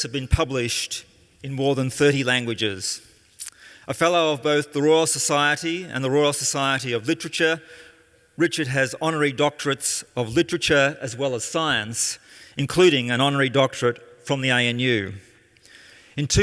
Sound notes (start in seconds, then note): none